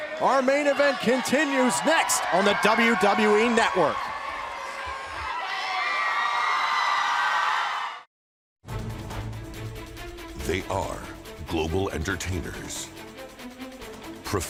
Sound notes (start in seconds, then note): 7.8 cheers and applause